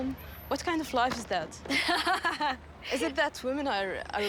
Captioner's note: laughs